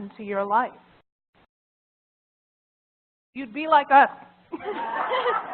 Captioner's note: laugh